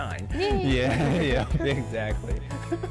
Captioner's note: both laugh